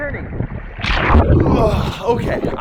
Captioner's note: water splashes